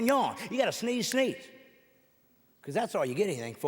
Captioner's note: none